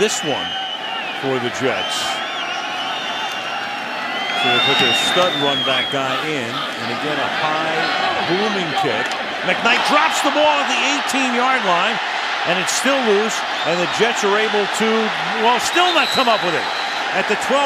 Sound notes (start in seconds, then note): 11.9 cheering